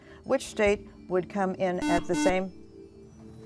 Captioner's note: buzzer